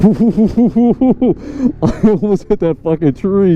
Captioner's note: laughs